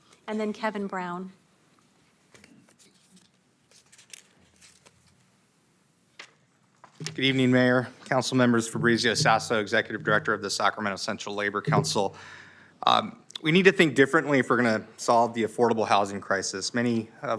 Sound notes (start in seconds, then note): none